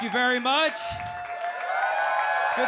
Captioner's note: audience clapping and cheering